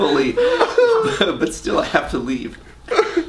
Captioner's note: laughs loudly